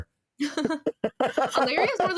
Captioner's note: laughing